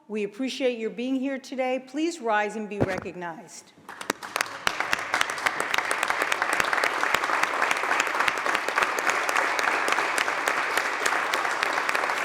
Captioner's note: applause